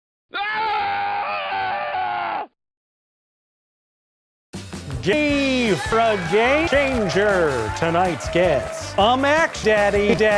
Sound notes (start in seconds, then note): 0.3 half life scientist scream; 9.3 said in a southern accent